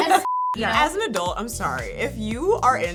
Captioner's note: laugh